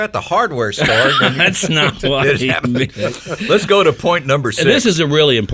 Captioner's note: planters laugh